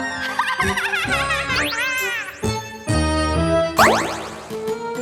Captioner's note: triplets giggling